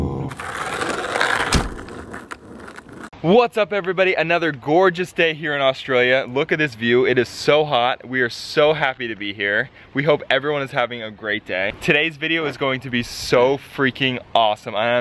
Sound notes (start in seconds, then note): 0.3 crackling